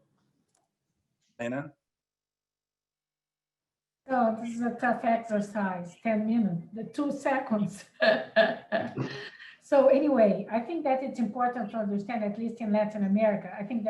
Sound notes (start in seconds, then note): 7.7 laughs